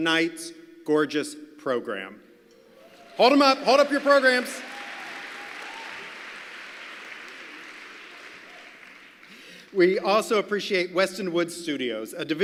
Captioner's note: applause